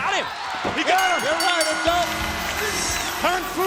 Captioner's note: bell rings